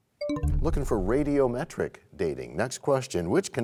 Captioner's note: bell chimes, time expires